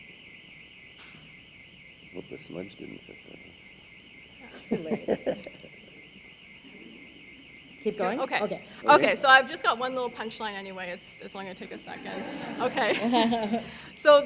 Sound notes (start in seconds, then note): 4.4 laughing; 11.8 audience laughing